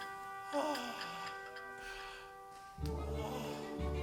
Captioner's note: Frank sighs; waltz music